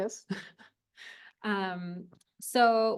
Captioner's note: chuckles